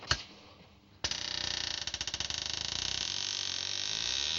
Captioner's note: doorknob Turns; creaking